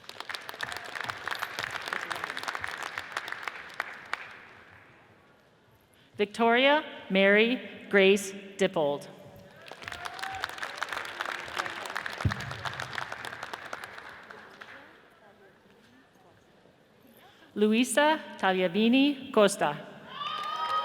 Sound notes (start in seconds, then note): 0.0 audience applauds; 9.5 audience cheers and applauds; 20.1 audience cheers and applauds